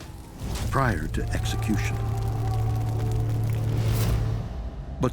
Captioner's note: distorted shouting